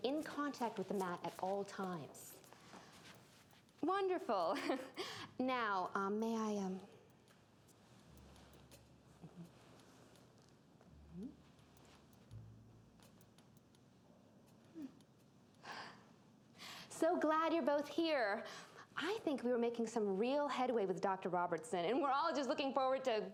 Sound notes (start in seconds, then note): 4.5 chuckles